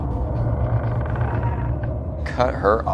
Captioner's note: floorboard creaks